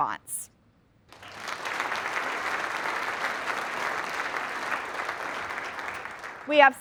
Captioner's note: applause